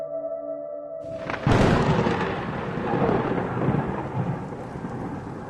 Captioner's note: thunderclap